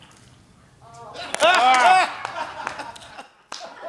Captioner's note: bottle crinkles; laughter